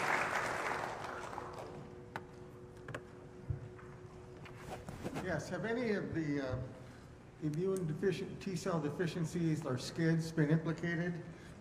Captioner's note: applause